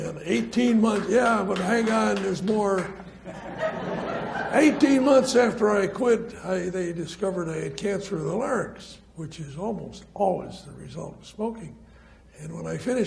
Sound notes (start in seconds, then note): 0.8 audience applauds; 2.9 audience laughs